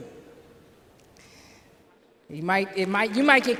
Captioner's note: applause